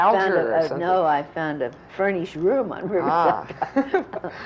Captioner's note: laughter